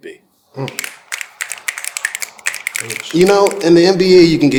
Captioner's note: all guests snapping